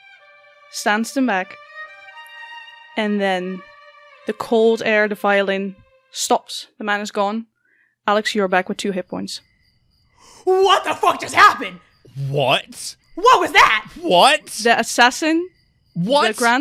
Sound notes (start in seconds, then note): 9.3 the sound of crickets chirping comes back